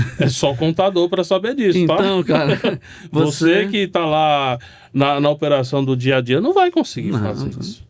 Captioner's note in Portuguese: risadas